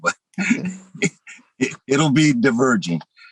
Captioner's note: laughs